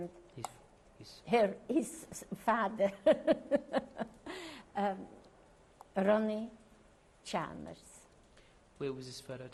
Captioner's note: laughs